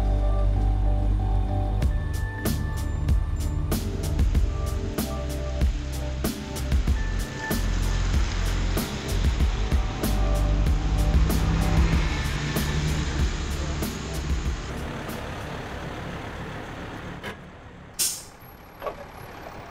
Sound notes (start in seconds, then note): 16.1 bus brakes